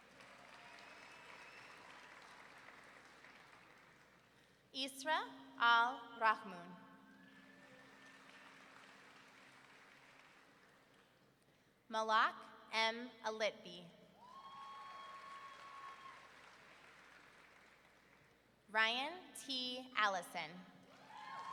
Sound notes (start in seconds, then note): 0.0 audience clapping; 7.4 audience clapping; 14.2 audience member whooping; 14.6 audience clapping; 21.0 audience cheering and clapping